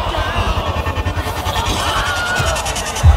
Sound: Wilhelm scream

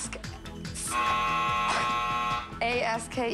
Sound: buzzer

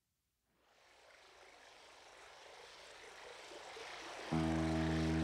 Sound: water flowing

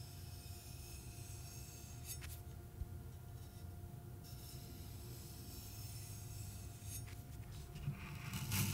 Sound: sounds of a knife's edge; sounds of cutting an apple

